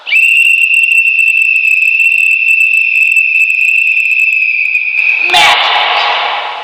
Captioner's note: whistle blowing